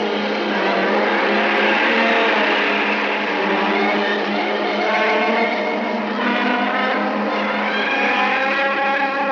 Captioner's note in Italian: musica in sottofondo; SCROSCIO DELL'ACqUA